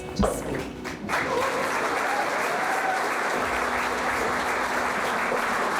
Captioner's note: audience applauding